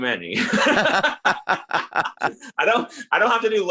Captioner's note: laughing